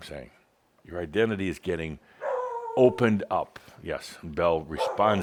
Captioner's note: Belle starts barking again